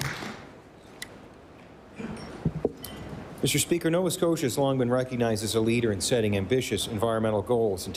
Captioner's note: applause